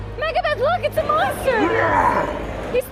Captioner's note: roar